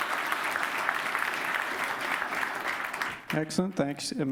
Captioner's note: applause